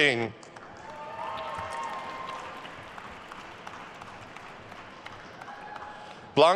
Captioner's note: attendees cheering and applauding